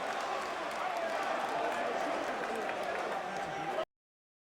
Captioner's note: crowd chattering